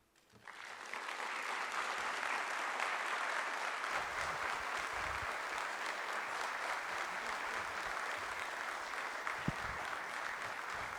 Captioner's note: applause